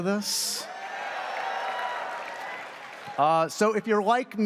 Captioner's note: audience cheers